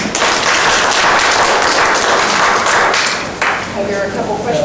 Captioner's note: audience clapping